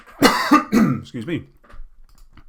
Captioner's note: coughs